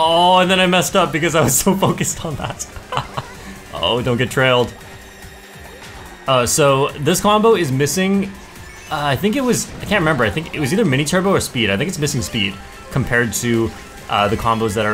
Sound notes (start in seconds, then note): 1.4 laughs